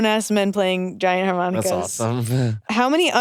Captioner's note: chuckles